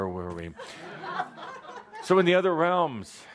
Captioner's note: laughter